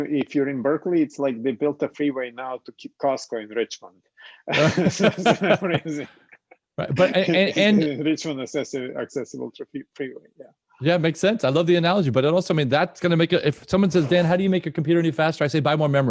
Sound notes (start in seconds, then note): 4.4 laughter